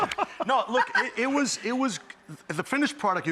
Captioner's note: laughing